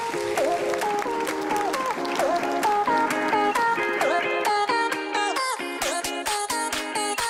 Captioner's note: applause